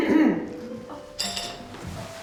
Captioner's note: clears throat; dishes clatter